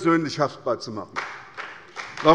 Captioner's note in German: Beifall bei der SPD